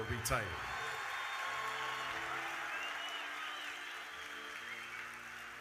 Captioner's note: audience cheering